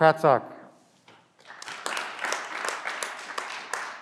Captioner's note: clapping